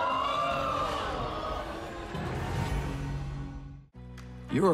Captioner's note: audience exclaiming